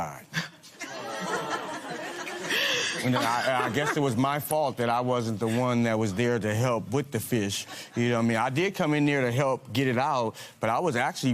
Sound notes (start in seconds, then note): 0.8 spectators aww